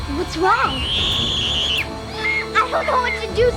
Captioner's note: screams